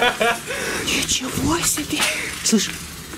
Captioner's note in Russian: шепот